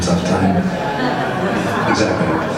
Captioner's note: audience laughs